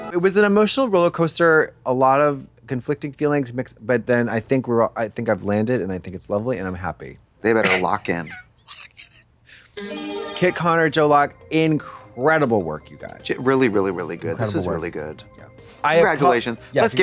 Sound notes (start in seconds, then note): 9.9 bright chime